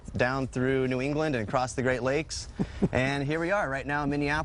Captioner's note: laughing